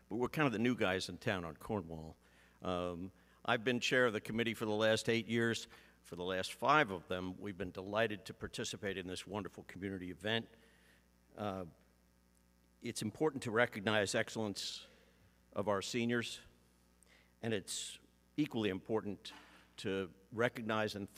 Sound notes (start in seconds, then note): none